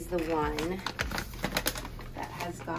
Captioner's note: packaging rustling